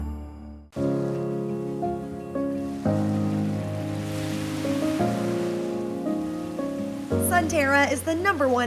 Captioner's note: waves crashing on beach